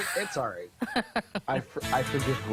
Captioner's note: laughter